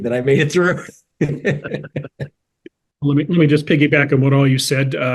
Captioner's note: laugh